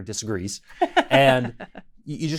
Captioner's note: laughs